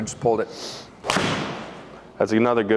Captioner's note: golf club hits ball